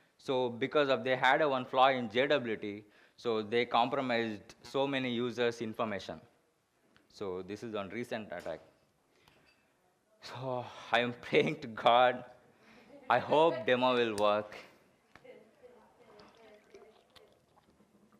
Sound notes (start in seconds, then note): 13.1 audience laughs